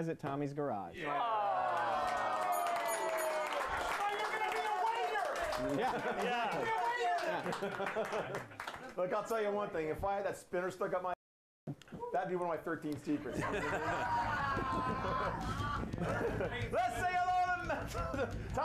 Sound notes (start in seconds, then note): 2.4 bell rings; 4.6 applause; 16.7 laughter